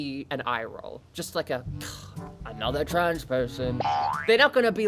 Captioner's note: boing sfx